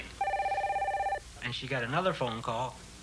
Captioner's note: phone ringing